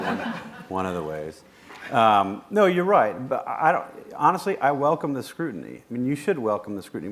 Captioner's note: laughter